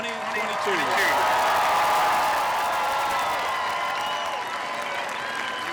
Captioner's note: applause and cheering